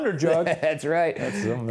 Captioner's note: chuckles